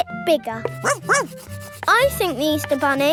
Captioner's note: barks